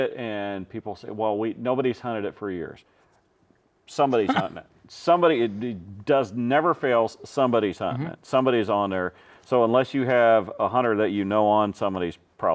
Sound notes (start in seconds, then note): 4.2 laughing